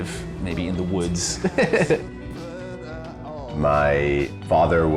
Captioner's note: laughs